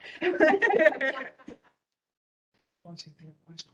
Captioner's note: laughing